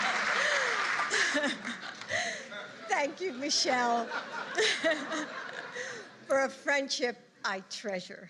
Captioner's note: laughter